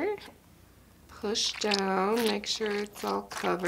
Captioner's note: squishing